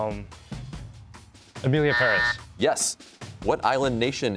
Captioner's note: buzzer sounds